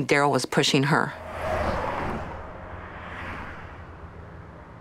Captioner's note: cars speeding